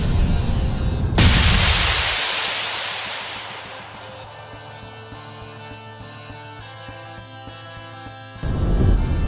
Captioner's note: snap